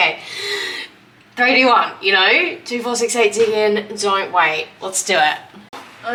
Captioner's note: inhales